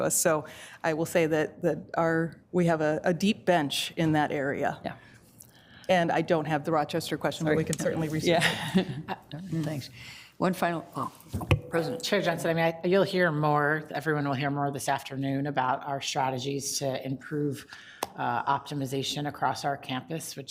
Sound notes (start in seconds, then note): 9.2 laughs